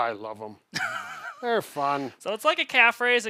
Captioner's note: giggles